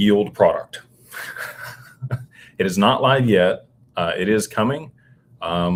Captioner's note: laughter